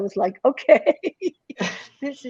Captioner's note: chuckles